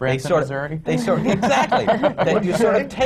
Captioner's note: laughter